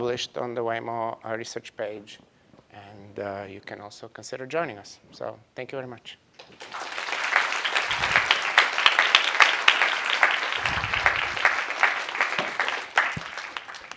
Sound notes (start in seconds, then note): 8.6 applause